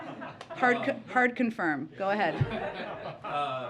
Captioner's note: laughter